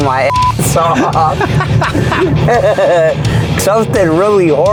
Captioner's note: laughing